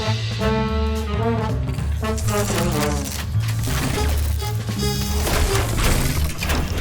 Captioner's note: machines whirs; electricity crackles